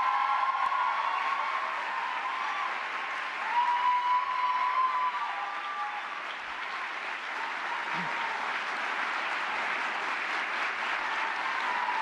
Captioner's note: applause